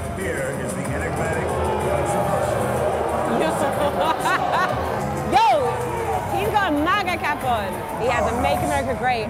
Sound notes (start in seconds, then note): 2.8 boos